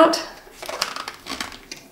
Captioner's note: plastic crinkling